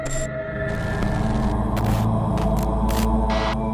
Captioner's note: static